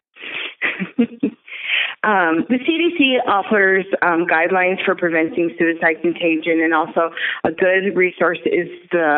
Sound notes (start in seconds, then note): 0.2 chuckle